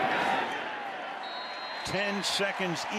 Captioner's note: whistle